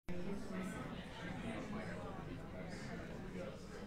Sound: group chattering

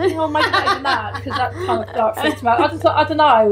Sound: laughing

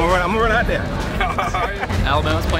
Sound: laughs

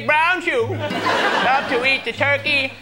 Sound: laughter

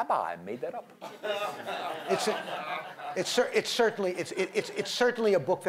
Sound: laughter

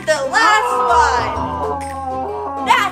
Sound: Nemo groans

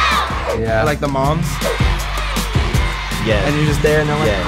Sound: crowd cheering

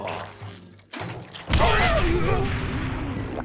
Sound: booming

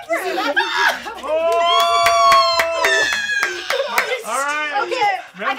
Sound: squeals; squeals

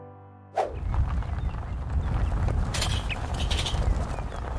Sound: camera whooshing

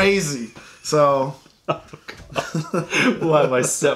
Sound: laughter

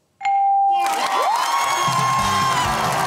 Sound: cheering and applause

